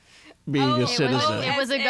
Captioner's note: laughs